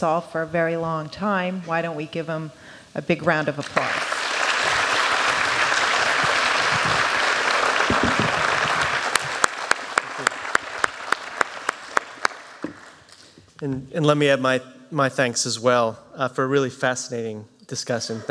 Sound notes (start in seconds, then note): 3.6 applause